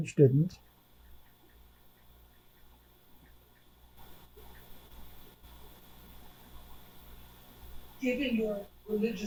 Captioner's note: pauses 6 seconds